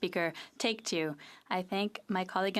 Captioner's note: speaking French